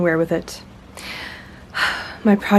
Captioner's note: bemused sigh